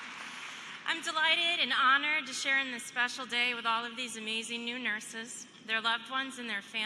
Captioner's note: applause